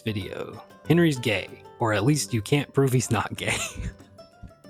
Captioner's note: laughs